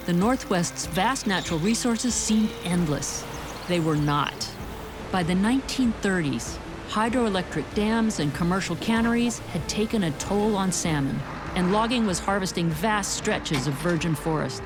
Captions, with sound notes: the northwest's vast natural resources seemed endless [birds chirping]. They were not. By the 1930s, hydroelectric dams and commercial canneries had taken a toll on salmon, and logging was harvesting vast stretches of virgin forests.